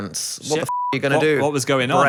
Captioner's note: beeping